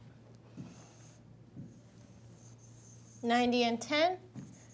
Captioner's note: stylus scratching